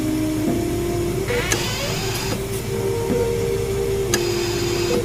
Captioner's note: door creeping